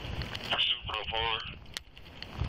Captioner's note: radio chatter